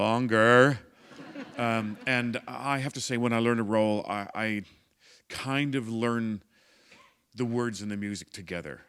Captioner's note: laughter